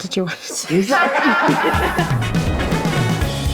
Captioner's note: laughing; upbeat music